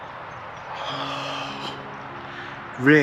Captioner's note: sigh